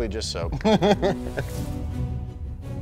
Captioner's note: laughing; dramatic background music